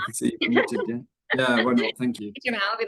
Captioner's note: chuckles